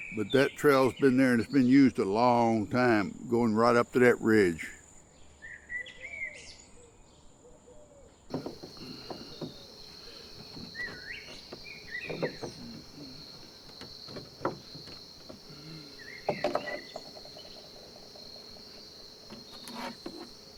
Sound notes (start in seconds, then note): 5.5 bird trilling; 10.8 birds chirping; 16.1 birds trilling